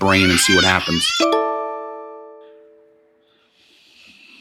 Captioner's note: computer dings